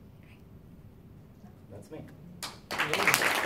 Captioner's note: applause